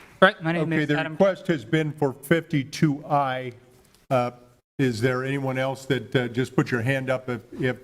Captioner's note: applause